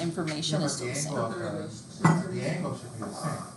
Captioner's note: students mumbling